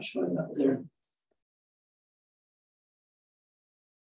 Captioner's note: silence